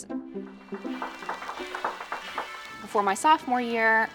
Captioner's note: audience applauding